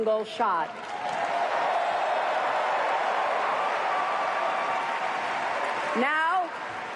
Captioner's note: cheers and applause